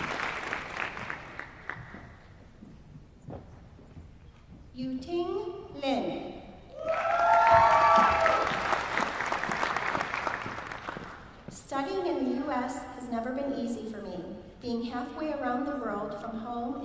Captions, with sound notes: Yu-ting Lin. [APPLAUSE] Studying in the US has never been easy for me. Being halfway around the world from home